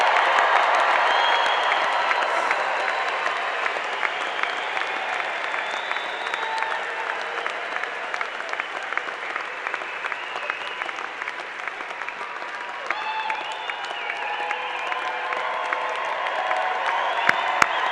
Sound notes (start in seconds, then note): 5.7 applause